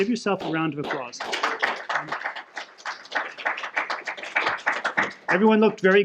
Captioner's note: applause